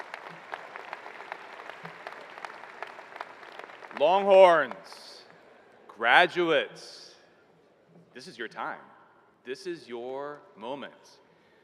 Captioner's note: applause